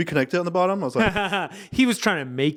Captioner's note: laughing